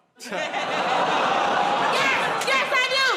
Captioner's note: audience "Oh"s